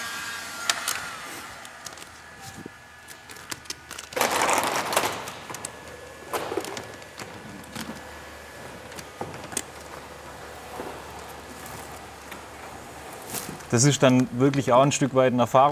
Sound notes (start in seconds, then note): 4.0 scratching noises